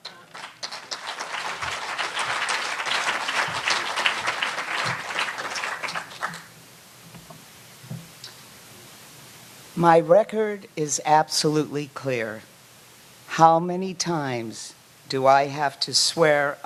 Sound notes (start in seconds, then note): 4.1 applause